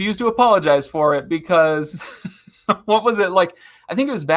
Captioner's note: chuckling